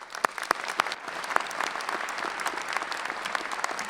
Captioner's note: clapping